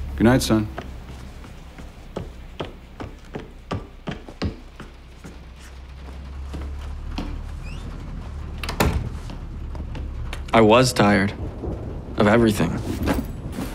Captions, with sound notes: -Goodnight, son. [footsteps] [door opens and shuts] -I was tired of everything.